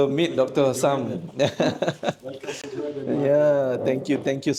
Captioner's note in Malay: ketawa